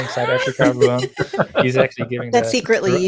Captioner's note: all laughing